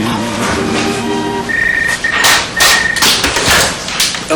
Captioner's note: telephone ringing